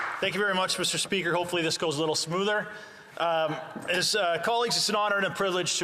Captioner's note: applause